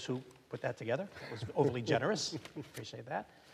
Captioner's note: chuckling